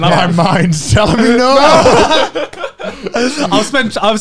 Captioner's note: both laugh